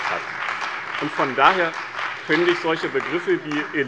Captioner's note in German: Beifall bei dem BÜNDNIS 90/DIE GRÜNEN und der CDU